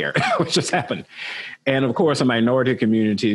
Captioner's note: laugh lightly